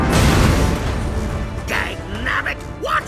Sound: ships rumbling

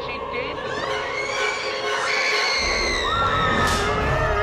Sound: screaming

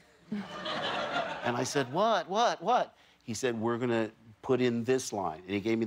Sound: laughter

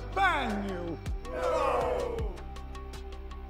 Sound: crowd

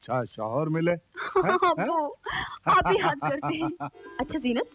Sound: laughs

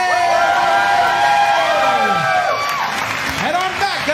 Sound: cheers & applause

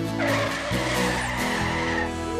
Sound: tires Squealing

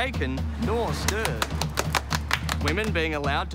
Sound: clapping

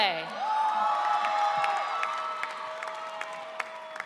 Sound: audience cheering

